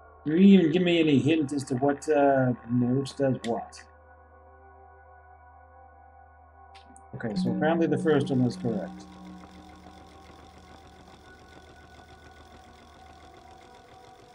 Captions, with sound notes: Are you even gonna give me any hint as to what note does what? Okay, so apparently the first one was correct. [tone sounds] [mechanical clicking]